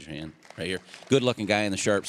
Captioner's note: applause